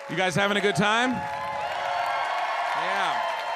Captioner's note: audience cheers